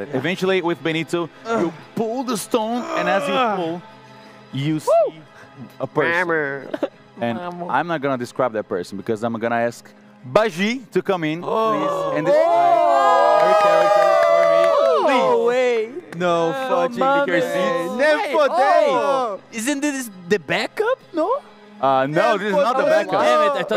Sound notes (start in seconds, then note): 14.4 everyone celebrating; 18.4 in Portuguese